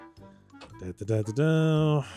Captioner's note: humming